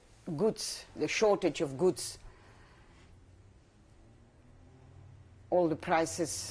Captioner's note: pauses for 3 seconds